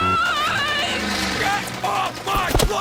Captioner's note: gunfire